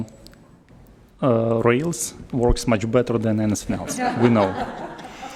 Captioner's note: laughter